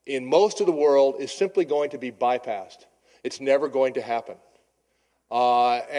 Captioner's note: none